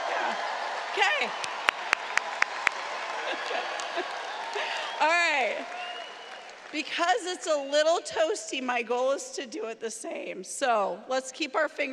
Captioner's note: cheering